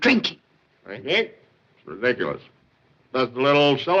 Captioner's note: slurring